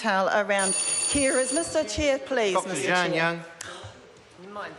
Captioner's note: bell rings